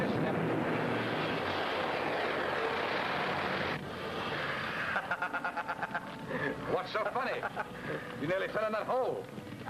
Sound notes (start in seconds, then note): 0.0 steam whooshes; 4.9 conspirator laughing